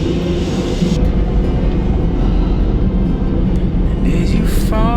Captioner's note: car engine roaring